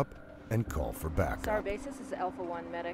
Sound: voiceover

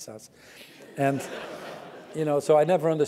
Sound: laugh

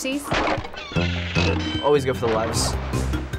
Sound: wood splinters, bell dings

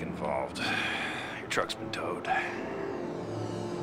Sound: sighs

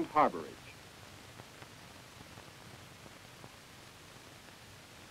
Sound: silence

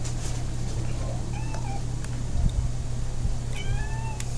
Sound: Panther our cat meowing

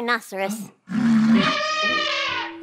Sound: elephant trumpets

